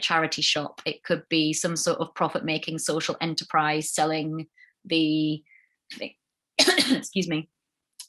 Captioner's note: coughs-excuse me